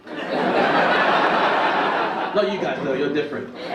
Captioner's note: audience laugh